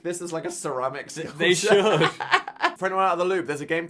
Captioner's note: Dan laughing